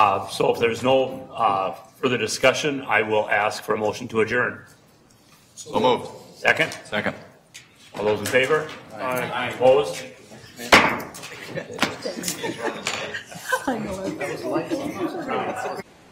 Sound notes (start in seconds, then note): 10.7 gavel clunking; 11.2 chattering and laughing